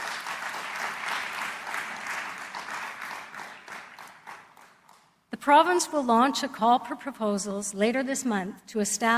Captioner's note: applause